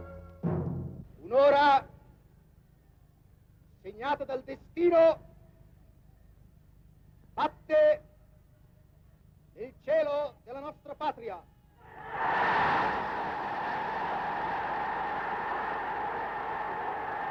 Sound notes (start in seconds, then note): 1.4 speaking foreign language; 11.8 crowd cheers